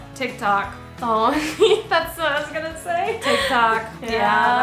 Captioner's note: laughs